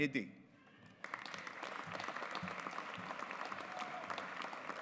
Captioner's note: audience applauds